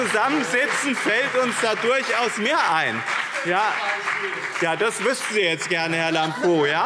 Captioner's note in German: Beifall BÜNDNIS 90/DIE GRÜNEN und CDU